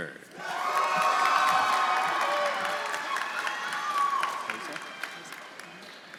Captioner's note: audience cheering; audience applauding